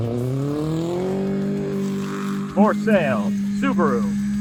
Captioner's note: engine revving; speaking foreign language